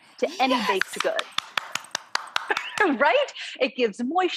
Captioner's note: clapping